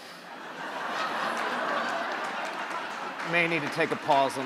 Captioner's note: crowd laughing